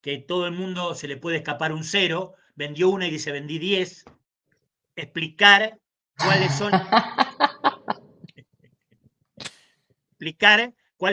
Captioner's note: laughs